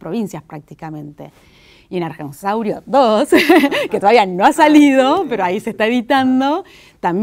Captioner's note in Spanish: risas